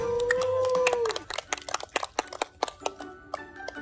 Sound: people clapping

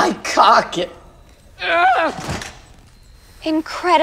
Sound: thud; groan

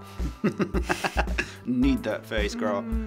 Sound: laughs

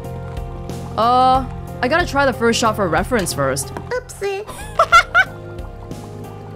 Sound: chuckles

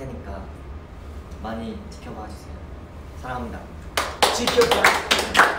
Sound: clapping

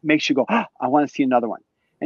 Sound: sighs

